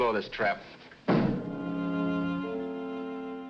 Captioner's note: piano lid thuds